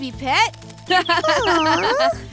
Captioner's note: tweeting; laughs